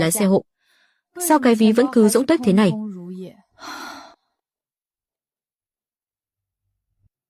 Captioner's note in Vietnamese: thở dài